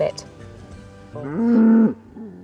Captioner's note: cow Moo’s